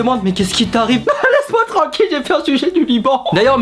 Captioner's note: sobbing